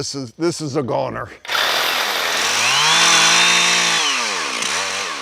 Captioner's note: saws buzzing